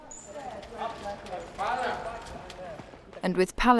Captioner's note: people chattering